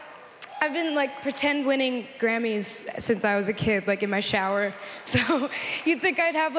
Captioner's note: cheers and Applause